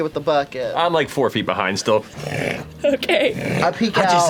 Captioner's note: scraping